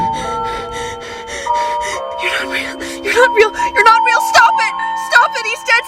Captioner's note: panicked breathing